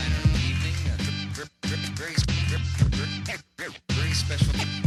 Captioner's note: record scratching